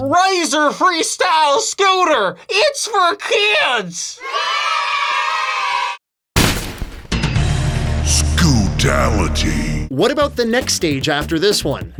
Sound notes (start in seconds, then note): 0.7 funny voice; 4.1 group of kids celebrating; 6.4 crash; 7.2 music sting; 8.0 booming voice